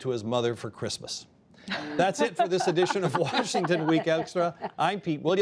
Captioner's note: laughter